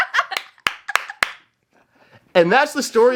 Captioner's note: laughing; clapping